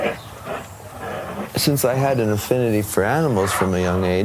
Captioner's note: bears grunting